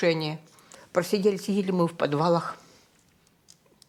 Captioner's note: the click of a pen